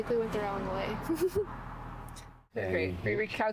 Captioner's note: laughter